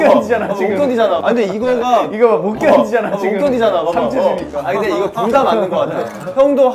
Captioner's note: tears